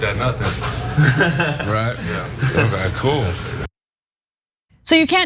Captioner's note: laugh